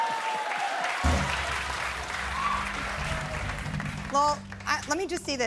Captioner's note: applause